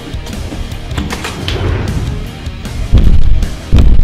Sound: upbeat rock music; door opening; feet stomping

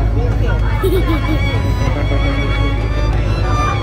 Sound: laugh; background music

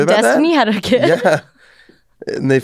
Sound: laughs

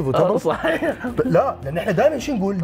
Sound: chuckles

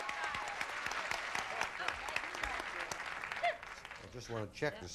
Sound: audience applauding

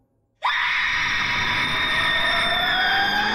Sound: screams

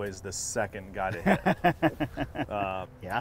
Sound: laughing

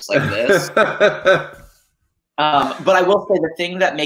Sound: laughing

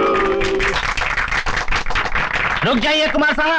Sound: applause

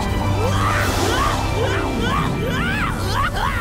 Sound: screaming

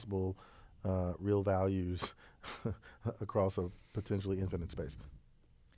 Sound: laugh

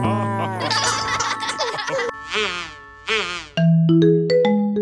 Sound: all chuckling

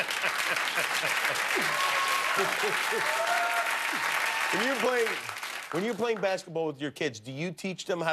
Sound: laughter and applause

